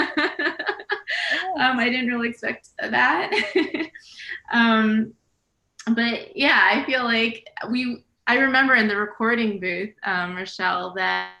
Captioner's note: laughs; laughs